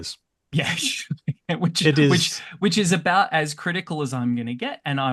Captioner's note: laughs